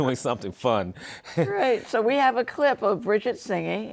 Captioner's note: laughs